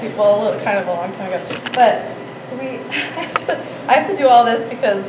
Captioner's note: laughs